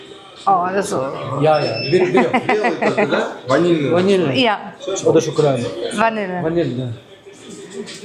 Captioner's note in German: gelächter